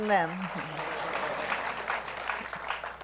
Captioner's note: applause